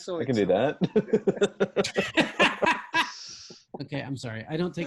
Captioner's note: members laughing